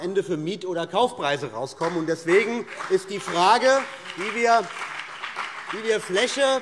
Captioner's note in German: Beifall BÜNDNIS 90/DIE GRÜNEN und vereinzelt CDU